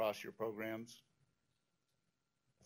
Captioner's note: pause